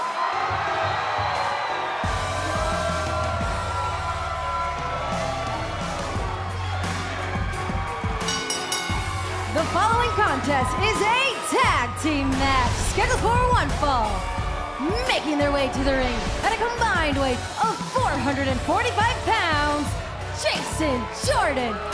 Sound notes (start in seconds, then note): 3.0 crowd cheering; 8.2 bell ringing